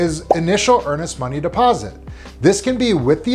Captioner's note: graphic blipping